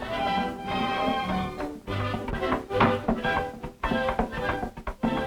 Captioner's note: soft hammering